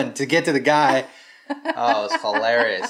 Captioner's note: laughing